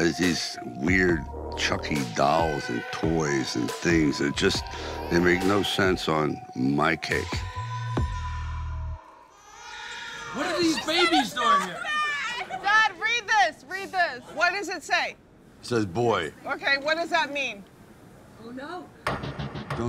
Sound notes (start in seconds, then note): 7.1 baby crying